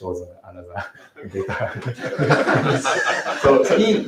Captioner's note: laughter